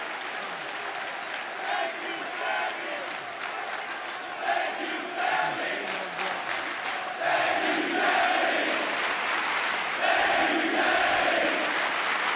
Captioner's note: cheers and applause; fans chanting